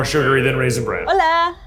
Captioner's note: phone ringing